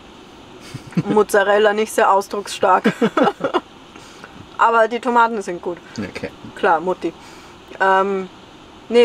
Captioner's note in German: Lachen